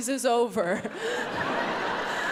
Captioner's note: audience laughs; laughs